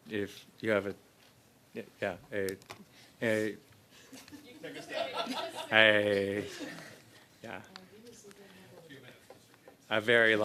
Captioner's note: laughter